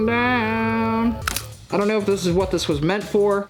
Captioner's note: plastic snapping